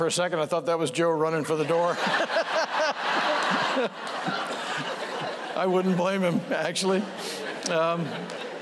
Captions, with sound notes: >> FOR A SECOND, I THOUGHT THAT WAS JOE RUNNING FOR THE DOOR. [LAUGHTER] >> I WOULDN'T BLAME HIM, ACTUALLY.